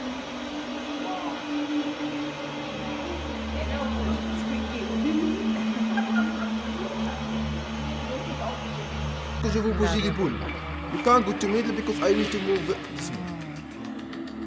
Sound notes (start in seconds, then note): 3.6 speaking German; 3.8 laugh